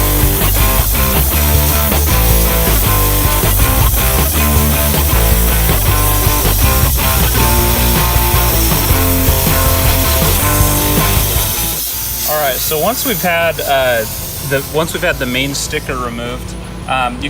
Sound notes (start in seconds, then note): 0.7 steam hisses